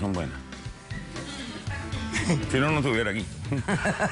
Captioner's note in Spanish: Risas